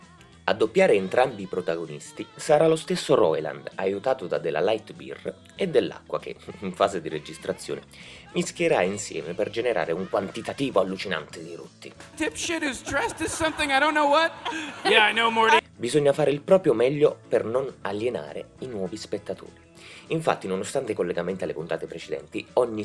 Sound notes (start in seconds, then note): 14.9 Rick Voice